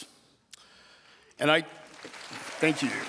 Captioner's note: audience applauding